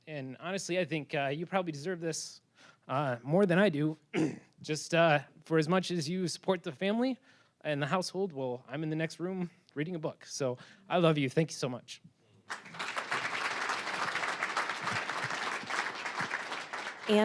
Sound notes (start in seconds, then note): 4.1 clearing throat; 12.4 applause